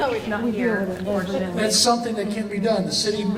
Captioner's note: crowd mutters